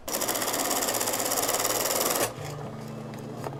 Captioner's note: sewing machine whirring; mellow guitar music